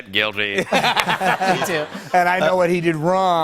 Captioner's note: laughter